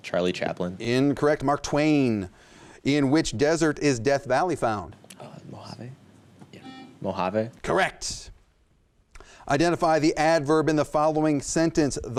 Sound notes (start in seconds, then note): 5.2 whispers; 6.6 buzzer